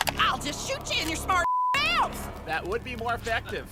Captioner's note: beep